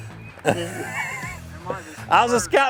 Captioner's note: laughter